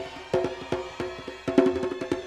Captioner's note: cheering